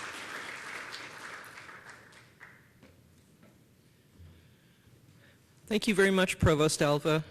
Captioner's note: applause